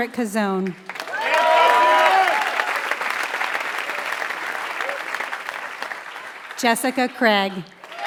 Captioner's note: applause